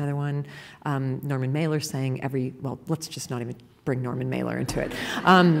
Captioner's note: laughter